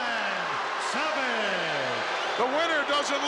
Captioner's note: crowd boos